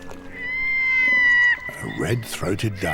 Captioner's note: bird squawking